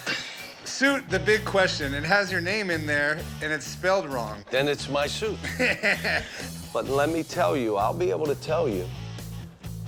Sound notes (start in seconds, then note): 5.3 Chumlee laughs